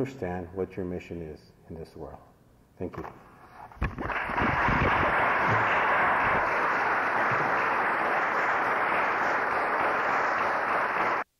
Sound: applause

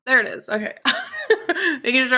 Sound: laughs

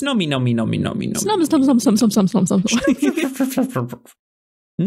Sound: Various strange Snom-based noises

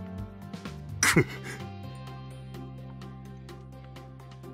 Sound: sneezes

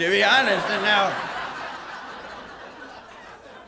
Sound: laughter

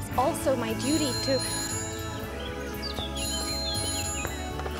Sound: phone ringing

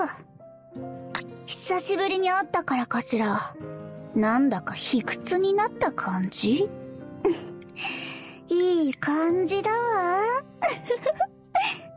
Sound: giggle

